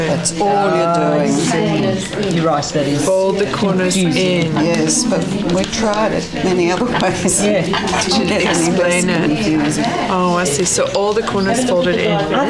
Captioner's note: audience chatter